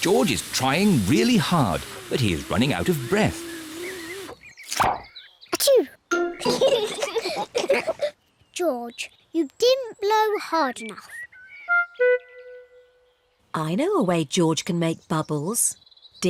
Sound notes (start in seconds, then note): 5.5 sneezes; 6.4 both giggle